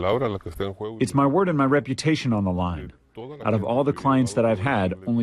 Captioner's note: through translator